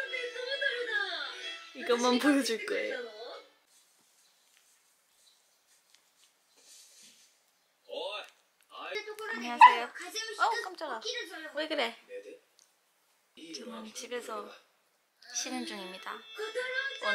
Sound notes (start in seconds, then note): 6.2 patting